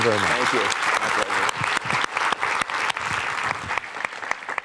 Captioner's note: applause